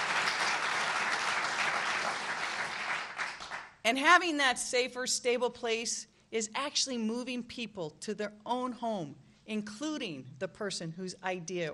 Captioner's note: applause